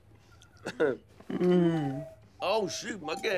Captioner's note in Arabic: رنين ساعة الوقواق